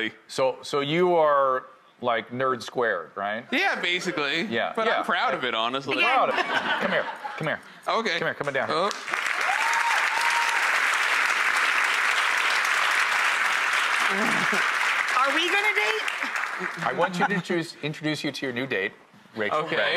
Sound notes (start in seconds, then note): 6.2 audience laughs; 9.5 audience claps